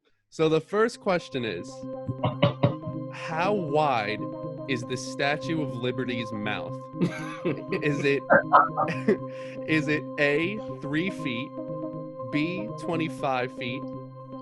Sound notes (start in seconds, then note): 1.9 excitedly taps on table; 7.0 both laugh